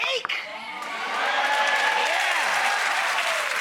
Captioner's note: applause